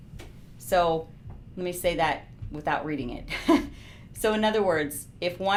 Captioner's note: laughing